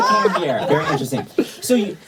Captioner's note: laughter